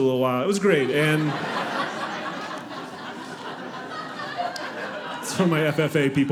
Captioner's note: audience laughing